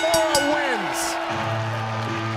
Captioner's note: bell ringing